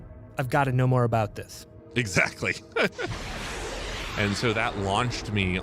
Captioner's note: laughs